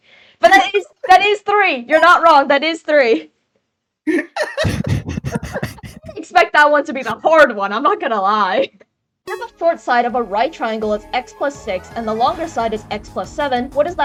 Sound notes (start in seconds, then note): 4.5 all laugh